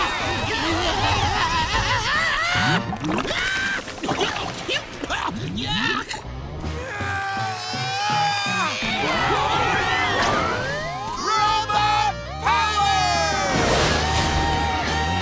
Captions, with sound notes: [screaming] [coughing] Yuck! [grunting] [screaming] Robot Power!